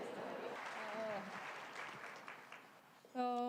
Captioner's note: applause